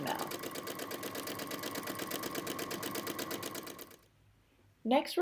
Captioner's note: machine sounds